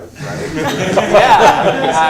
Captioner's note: laughter